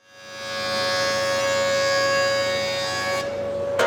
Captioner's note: machine grinding